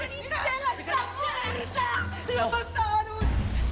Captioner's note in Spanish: Gritan al unísono